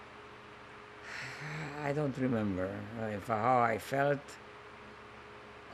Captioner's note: sighing